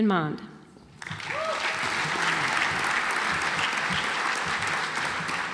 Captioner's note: audience applauds